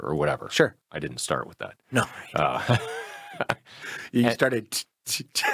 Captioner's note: laughs